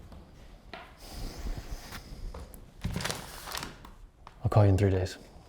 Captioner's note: Arawn exhales; envelope crinkling